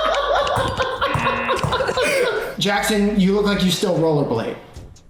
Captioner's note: laugh; buzzer